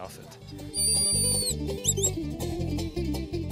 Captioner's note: whistling; upbeat acoustic music